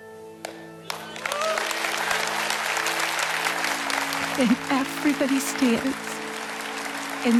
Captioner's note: audience applauds